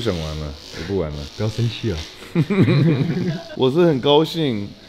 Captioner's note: Laughs